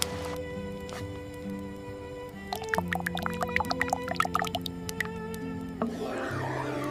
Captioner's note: chocolate dropping into the dark pot